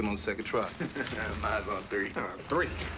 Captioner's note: laughs